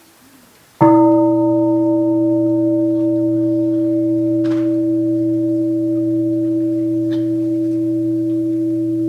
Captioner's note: gong